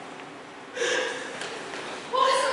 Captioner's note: CASSANDRA gasps